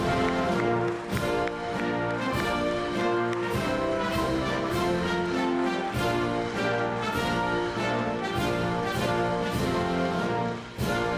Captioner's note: applause